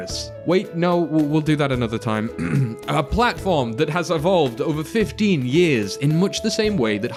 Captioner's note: coughs